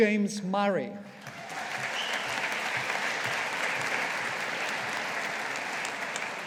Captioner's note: audience applauding